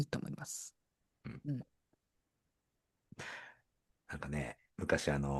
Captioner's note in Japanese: 咳払い